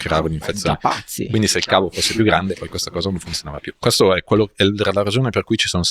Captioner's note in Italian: sbuffare